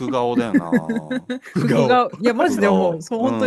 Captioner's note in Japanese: 笑い